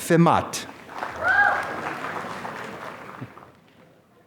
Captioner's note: applause